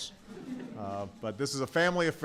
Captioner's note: laughter